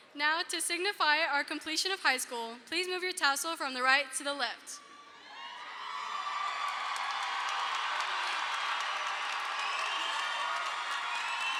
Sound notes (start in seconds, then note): 5.2 audience cheers; 5.7 audience applauds